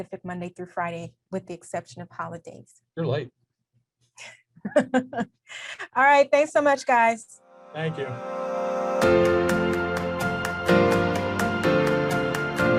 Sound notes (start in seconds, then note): 4.6 chuckles; 9.3 upbeat music